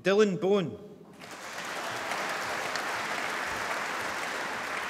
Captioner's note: applause